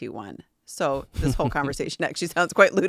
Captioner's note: laughing